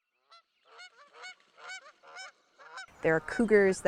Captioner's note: geese honking